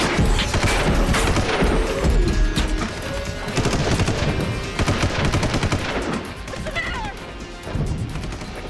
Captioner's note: gunshot